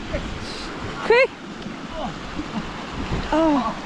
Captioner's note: river roaring